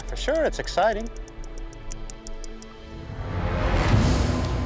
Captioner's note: clicking; dramatic music